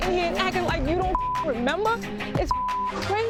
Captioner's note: beep